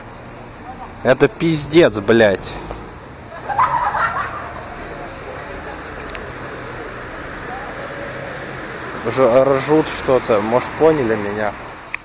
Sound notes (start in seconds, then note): 3.2 loud hysterical laughter